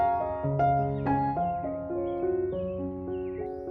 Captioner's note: birdsong in background